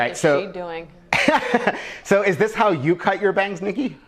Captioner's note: laughs